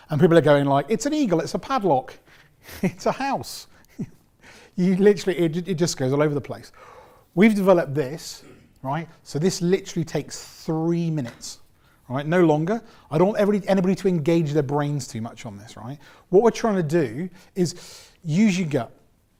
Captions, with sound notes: And people are going like, it's an eagle, it's a padlock, it's a house (laughs). It just goes all over the place. We've developed this. So this literally takes three minutes. No longer, I don't want anybody to engage their brains too much on this. What we're trying to do is use your gut.